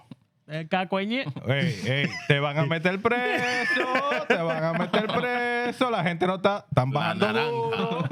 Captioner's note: speaking Spanish